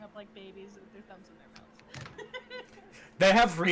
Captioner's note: laughs